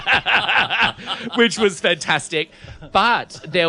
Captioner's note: laughs